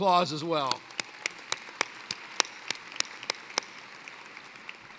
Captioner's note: applause